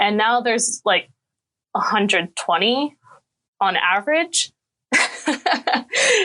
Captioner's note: laughing